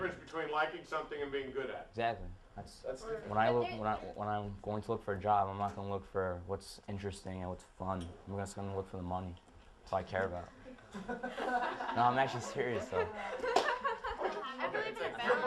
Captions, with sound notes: something and being good at it. >> Exactly. That's -- when I -- when I'm going to look for a job, I'm not going to look for interesting and what's fun, I'm just going to look for the money. It's all I care about. >> [Laughing]. >> No. I'm actually serious, though. >> [Laughing]. >> I really...